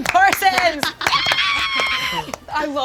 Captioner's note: screams